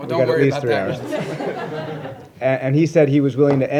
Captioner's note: laughter